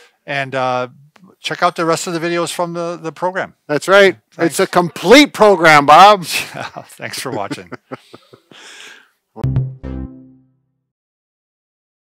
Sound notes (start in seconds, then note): 6.4 laughs; 9.4 upbeat music